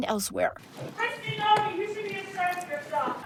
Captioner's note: shouting